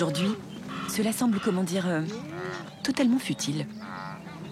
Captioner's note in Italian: versi di animali